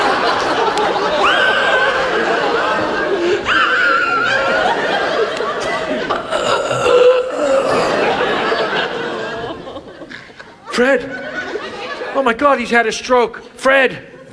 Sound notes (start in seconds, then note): 1.6 laughs; 5.0 audience laughs; 8.6 audience laughs